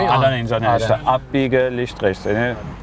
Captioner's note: speaks German